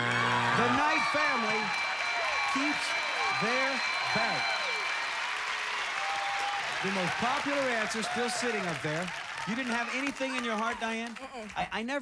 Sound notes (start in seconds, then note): 2.6 cheers and applause